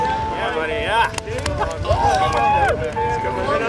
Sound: chattering

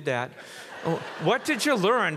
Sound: audience laughs

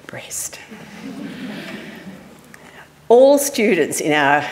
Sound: audience laughing

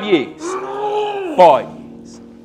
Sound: grunts

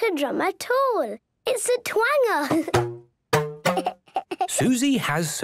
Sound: giggling

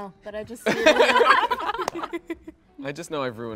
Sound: laughing

